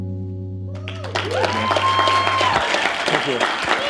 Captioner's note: cheers and applause